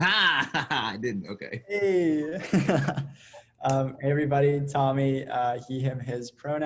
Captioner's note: laughs